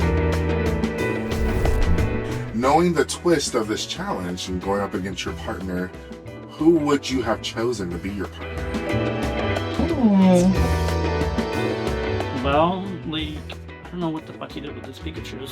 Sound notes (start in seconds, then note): none